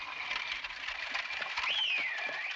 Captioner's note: whistles